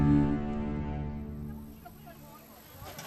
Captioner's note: crowd chatters indistinctly